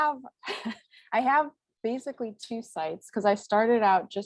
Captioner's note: chuckles